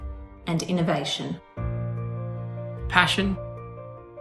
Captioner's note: none